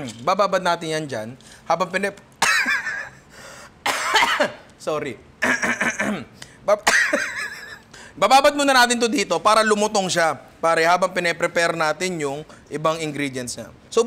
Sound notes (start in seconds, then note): 2.5 laughs; 5.4 clears throat; 5.4 laughs; 5.4 chokes